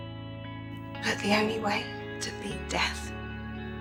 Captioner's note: voiceover